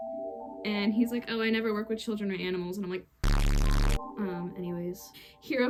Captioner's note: aggressive bass boosted sound of Choking Out a Television Man